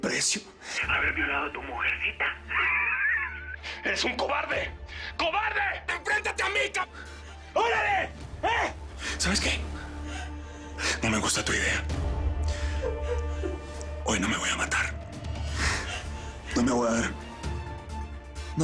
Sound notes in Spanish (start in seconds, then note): 2.1 Ríe